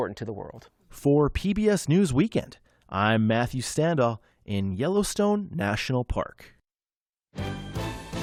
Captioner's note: voice-over